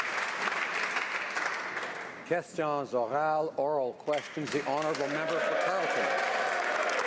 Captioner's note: some Applause